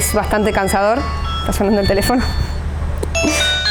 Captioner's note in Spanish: Está sonando el teléfono